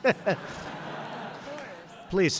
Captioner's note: laughter